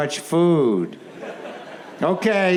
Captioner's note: audience laughs